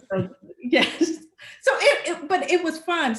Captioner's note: laughing